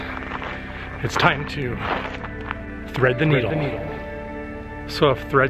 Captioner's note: echoes